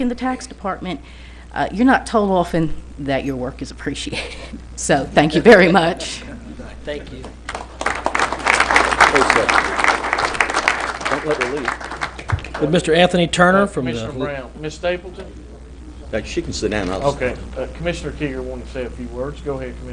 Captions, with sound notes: FOR WORKING FOR SUCH A WONDERFUL, PROFESSIONAL POLICE DEPARTMENT EVERY DAY FOR THE LAST 25 YEARS. THANK YOU MUCH. [ APPLAUSE ] >> WOULD DONNA STAPLETON FROM THE TAX OFFICE JOIN ME AT THE